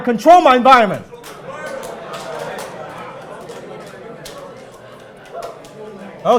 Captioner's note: audience high-fiving and talking